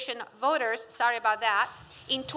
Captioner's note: none